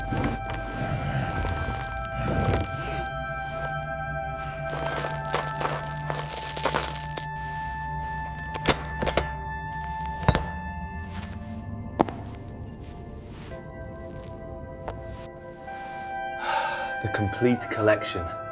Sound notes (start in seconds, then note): 9.5 footsteps; 9.5 heavy breathing; 9.5 metal clanking; 9.5 shovel scratching; 13.7 footsteps; 16.4 sighs